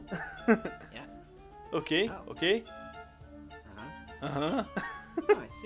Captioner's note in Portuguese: risos; Risos